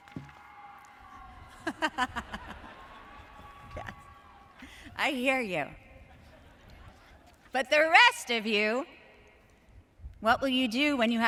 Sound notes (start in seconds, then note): 0.0 audience cheers; 1.6 speaker laughs